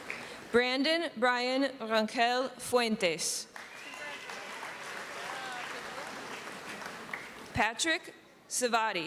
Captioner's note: applause